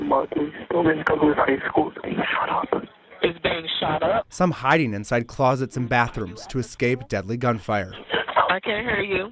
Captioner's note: nats of 911 calls